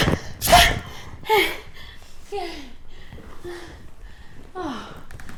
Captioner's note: Maisie gasping